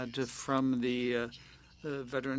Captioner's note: speaking French